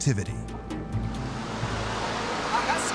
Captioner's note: steam hissing